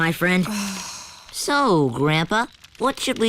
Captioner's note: sighs